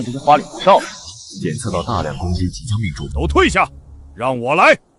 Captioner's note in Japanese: 効果音